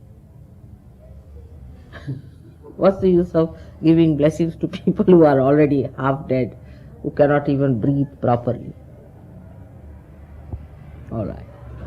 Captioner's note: laughter